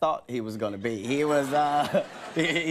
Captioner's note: audience laughing